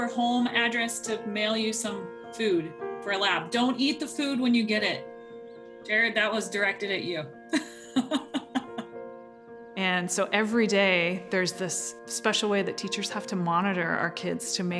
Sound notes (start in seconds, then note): 7.5 laughs